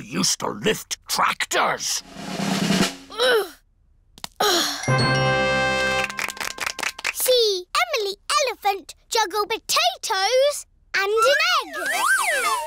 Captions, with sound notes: I used to lift tractors. -(DRUM ROLL) -(GROANS) See Emily Elephant juggle potatoes and an egg!